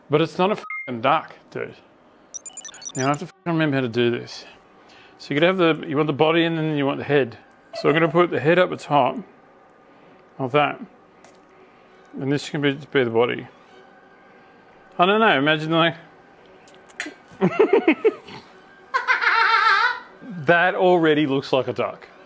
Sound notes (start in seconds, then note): 17.5 laughing